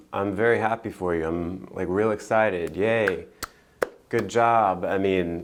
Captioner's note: clapping